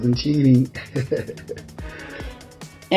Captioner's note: chuckles